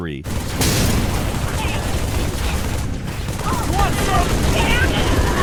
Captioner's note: guns firing